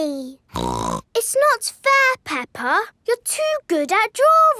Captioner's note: snorts